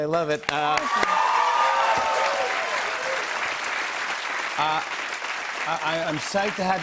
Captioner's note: cheers and applause